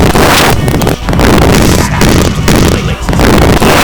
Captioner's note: Nega talks over an intercomm